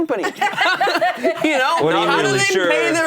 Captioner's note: laughing